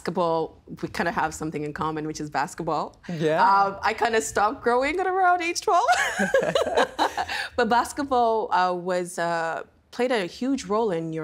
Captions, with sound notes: And basketball. We kind of have something in common, which is basketball. Yeah. I kind of stopped growing at around age 12. (Both laughing) but basketball was a-- played a huge role in